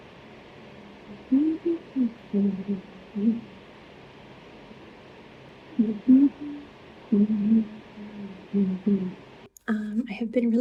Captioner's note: bizarre humming